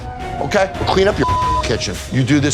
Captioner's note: beep